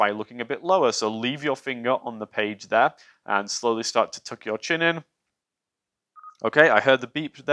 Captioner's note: camera beeps